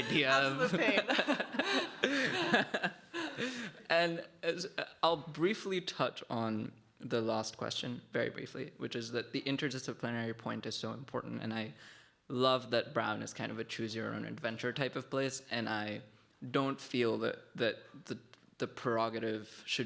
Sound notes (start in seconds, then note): 0.0 laughing